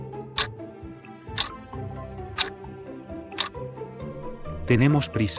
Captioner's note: FX - Clock Tick